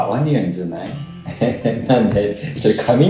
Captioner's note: laughs